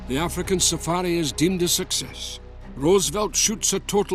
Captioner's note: Voz en off